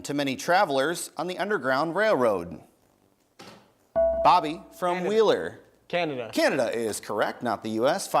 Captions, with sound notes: to many travelers on the Underground Railroad? (bell rings) Bobby from Wheeler. >> Canada. >> Canada is correct not the US.